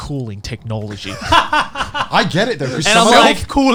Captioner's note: laughing loudly